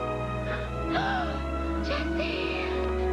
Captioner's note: gasps